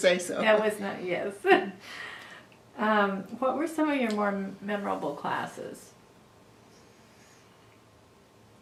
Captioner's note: laughs